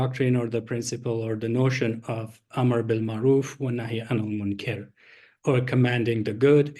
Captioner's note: non-english speech